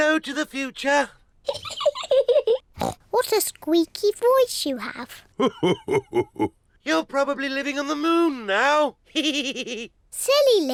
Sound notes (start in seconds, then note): 1.8 laughs; 9.8 chuckles